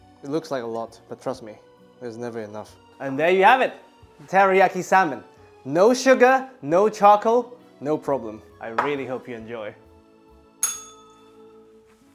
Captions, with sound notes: It looks like a lot, but trust me, it's never enough. And there you have it, teriyaki salmon. No sugar, no charcoal, no problem. I really hope you enjoy. [bell rings]